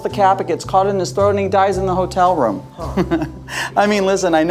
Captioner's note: chuckles